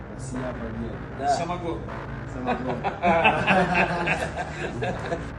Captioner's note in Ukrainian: сміх